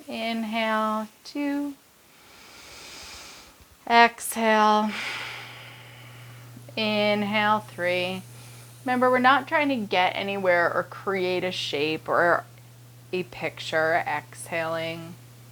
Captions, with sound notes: inhale two, (inhaling) exhale (exhaling) inhale three. Remember we're not trying to get anywhere or create a shape or a picture, exhaling.